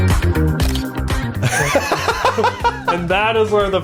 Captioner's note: laughs